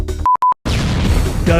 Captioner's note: explosion